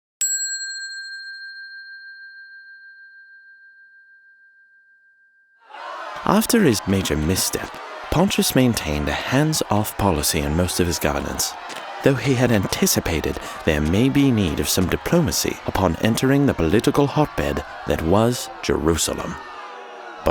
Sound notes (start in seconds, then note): 0.2 bell dinging; 5.9 crowd yelling